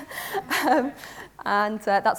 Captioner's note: audience laughs